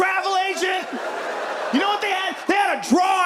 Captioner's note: audience laughs